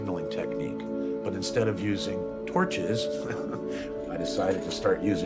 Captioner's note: laughs